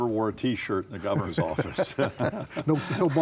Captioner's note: laughing